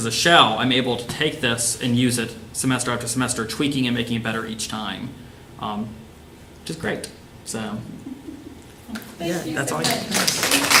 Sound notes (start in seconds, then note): 9.8 applause